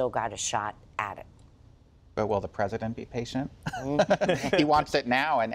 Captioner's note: laughter